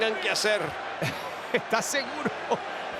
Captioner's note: laugh